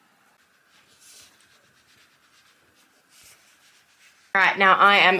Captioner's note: very quick ironing